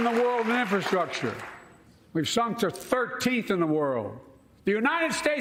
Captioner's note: cheers and applause